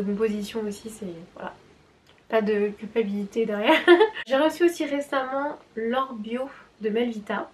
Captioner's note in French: rires